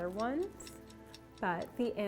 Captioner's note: clock ticking